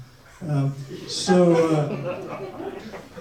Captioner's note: audience laughs